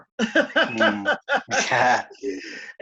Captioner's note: laughter